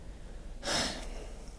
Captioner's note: sigh